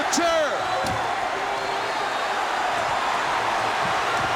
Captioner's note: crowd cheering